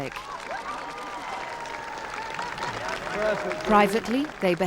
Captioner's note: audience clapping